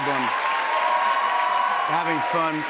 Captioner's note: cheers and applause